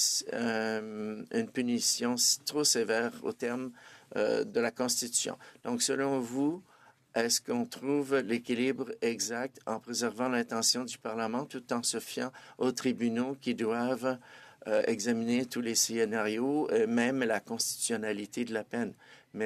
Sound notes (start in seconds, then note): 1.9 speaking French